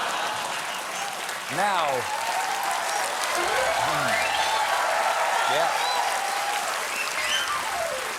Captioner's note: cheers and applause